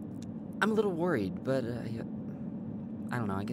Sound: none

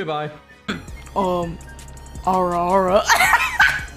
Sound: in a deep voice, trying to sound like a man; laughing and losing her shit

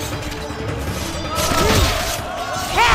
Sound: thudding; screams

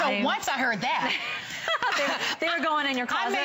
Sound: laughter

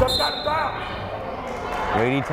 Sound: whistle blows

